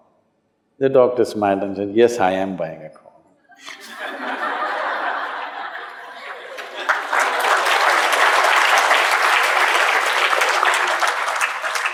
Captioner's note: laughter/Applause